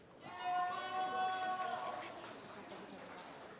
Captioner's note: applause